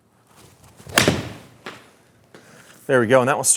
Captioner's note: golf ball pings